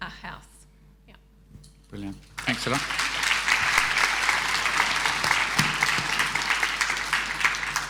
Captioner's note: audience applauding